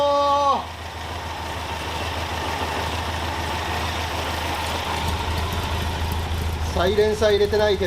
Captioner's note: engine whirring